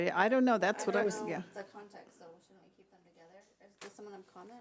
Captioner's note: overlapping chattering